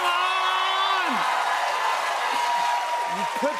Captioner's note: cheers and applause